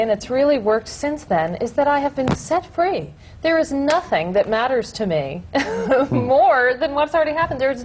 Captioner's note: laughs